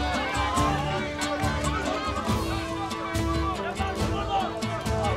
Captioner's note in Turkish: Bağırış sesleri